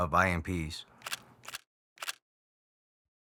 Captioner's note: camera shutter